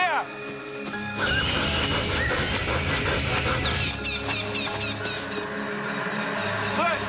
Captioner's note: birds tweet; pants